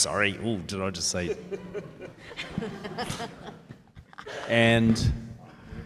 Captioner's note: panellists laugh